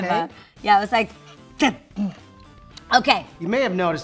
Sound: gags

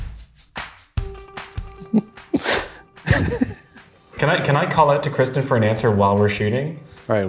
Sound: intro music; giggling

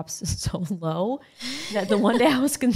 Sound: laughing

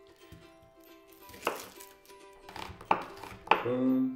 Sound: chopping

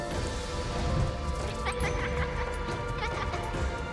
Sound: laughing

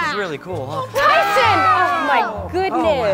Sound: yelling

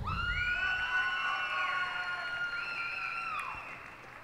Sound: cheers and applause

